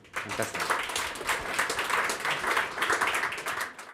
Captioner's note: applause